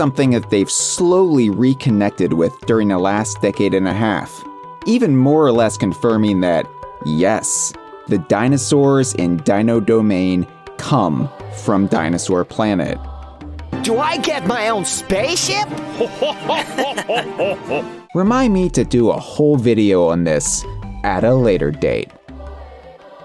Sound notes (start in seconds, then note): 15.7 laugh